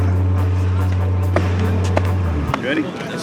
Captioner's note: fist pounding